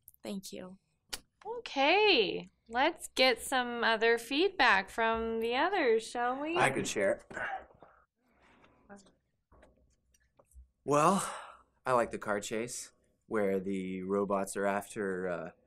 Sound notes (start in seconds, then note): 8.1 awkward silence